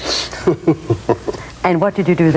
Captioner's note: laughing